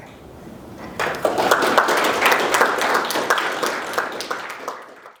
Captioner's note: applause